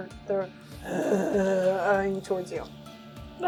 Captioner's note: zombie moans